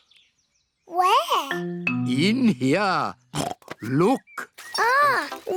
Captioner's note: oinks